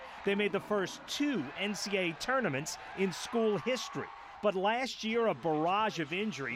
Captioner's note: applause